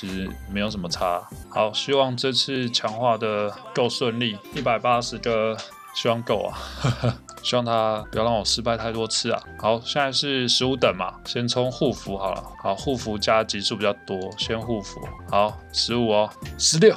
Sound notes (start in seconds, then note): 6.6 embarrassed laugh